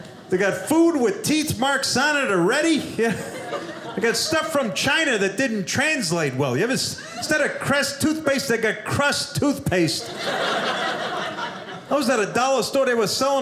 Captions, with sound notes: They got food with teeth marks on it already, yeah. They got stuff from China that didn't translate well. You have instead of Crest Toothpaste, they got Crust Toothpaste. (audience laughing) I was at a dollar store, they were selling